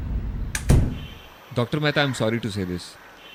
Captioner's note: door close